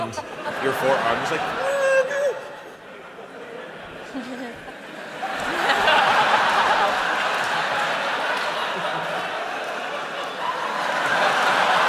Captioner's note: laughter